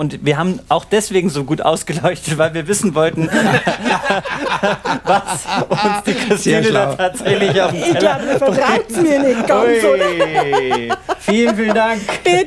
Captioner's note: laughing